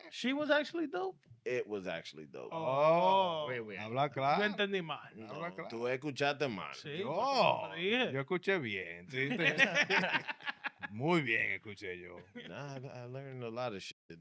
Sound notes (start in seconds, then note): 5.1 speaking In Foreign Language